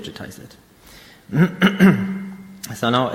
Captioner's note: clears throat